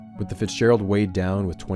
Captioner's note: none